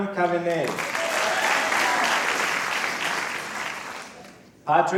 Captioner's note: applause